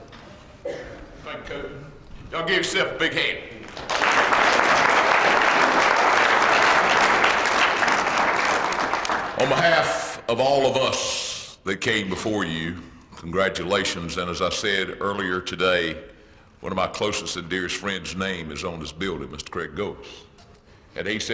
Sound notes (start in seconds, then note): 3.6 applause